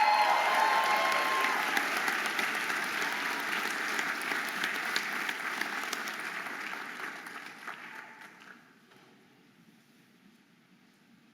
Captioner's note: audience applauding and cheering